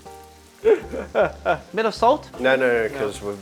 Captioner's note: laughs